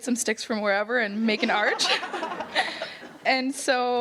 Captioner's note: audience chuckles